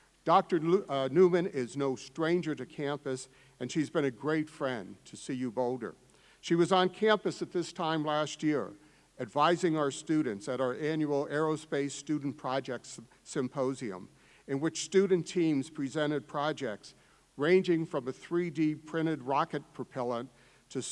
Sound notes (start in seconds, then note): none